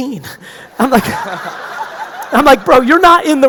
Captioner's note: audience laughing